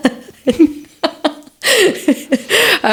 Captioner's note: laughter